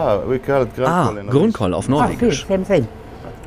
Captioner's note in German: englisch